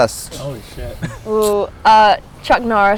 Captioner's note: laughs